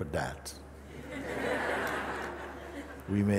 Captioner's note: Lachen